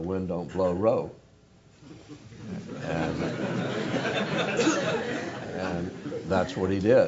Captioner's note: laugh